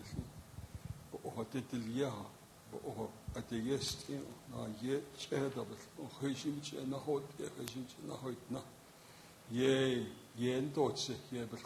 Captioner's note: speaking in native language